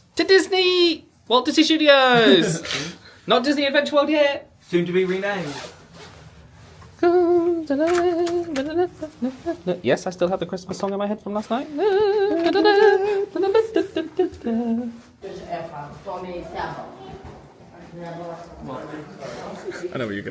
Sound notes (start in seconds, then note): 7.1 hums tunefully; 11.6 both humming tunefully; 16.2 lady speaking sternly in foreign language; 20.0 sniggers